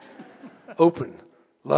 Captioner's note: audience laughing